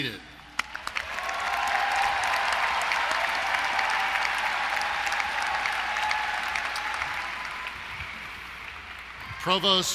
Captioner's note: applause & Cheering